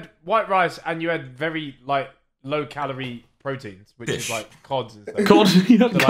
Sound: all laughing

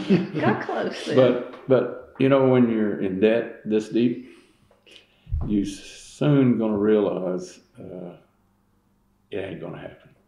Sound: laughs

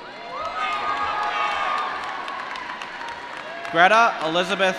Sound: applause

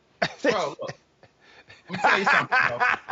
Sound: laughing

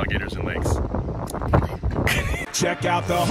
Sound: laughing

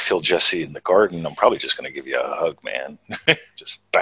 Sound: chuckles

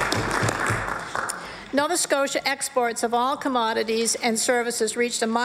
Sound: applause

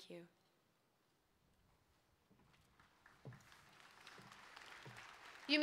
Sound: applause

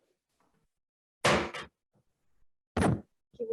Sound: gavel thumping

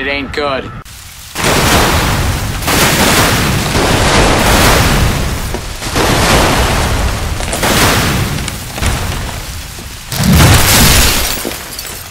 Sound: sounds of burning and death

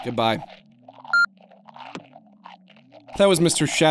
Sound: phone beeps

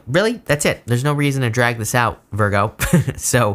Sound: chuckles

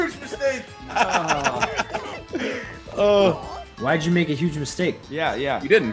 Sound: laugh

